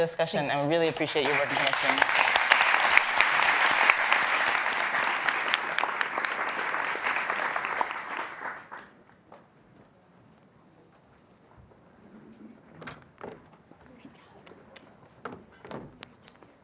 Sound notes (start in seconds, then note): 3.0 audience applauding